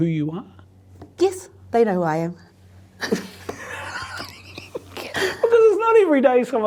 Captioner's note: both laughing